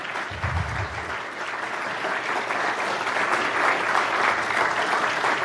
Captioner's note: applause